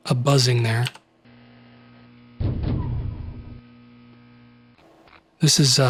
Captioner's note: light buzzing, base doors